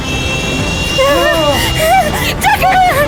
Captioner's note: sub whirring